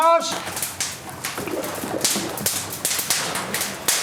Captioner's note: Feuer knallt und Wasser rauscht